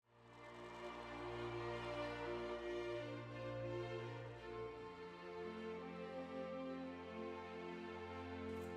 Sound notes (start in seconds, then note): 1.9 people cheering